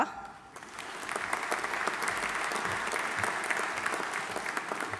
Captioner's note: audience applauding